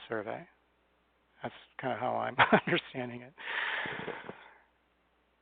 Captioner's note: chuckles